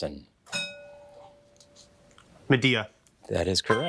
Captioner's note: bell dinging